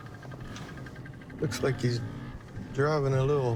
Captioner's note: none